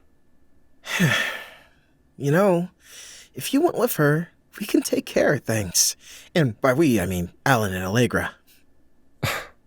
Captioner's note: sigh